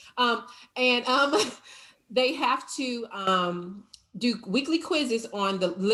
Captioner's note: chuckles